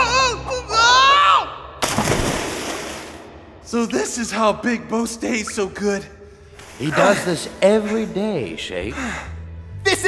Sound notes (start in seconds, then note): 0.5 Shakes exclaims; 1.8 splashes